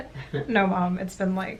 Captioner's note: giggling